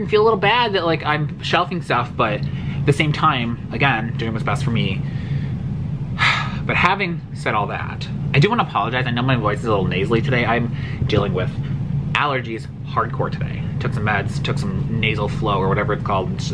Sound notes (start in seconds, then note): 6.1 heavy sigh